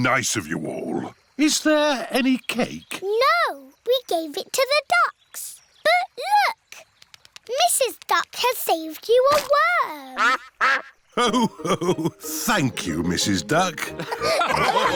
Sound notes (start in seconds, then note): 10.1 quacks